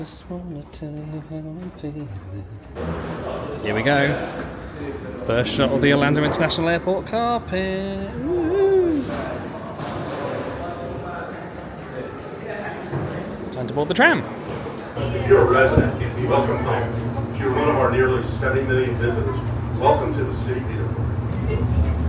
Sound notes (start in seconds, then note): 8.1 cheers; 9.7 crowd chattering